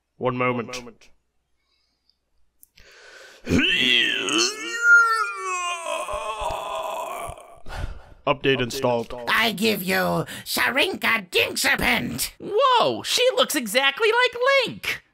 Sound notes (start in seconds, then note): 3.4 pained grunting; 7.2 sigh